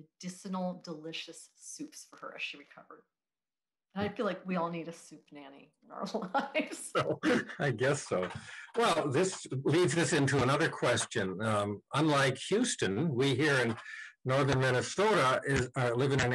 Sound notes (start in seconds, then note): 6.2 chuckles